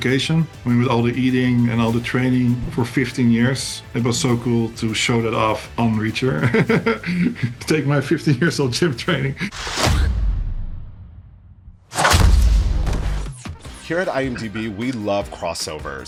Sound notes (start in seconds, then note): 7.9 whooshing